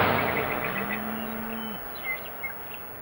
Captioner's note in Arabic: سيارة تقترب; خوار بقرة